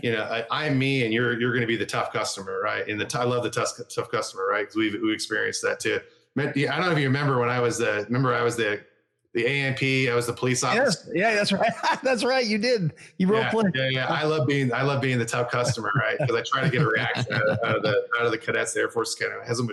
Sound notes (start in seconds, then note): 13.6 laughs